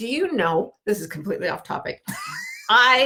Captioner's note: laughing